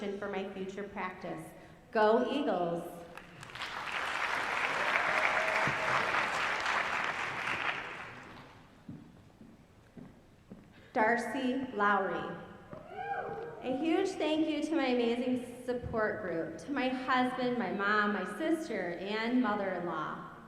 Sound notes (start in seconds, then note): 3.1 applause